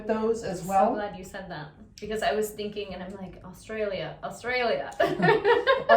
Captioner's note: laugh